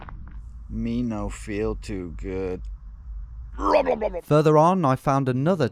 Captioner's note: imitates vomiting